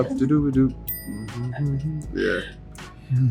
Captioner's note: humming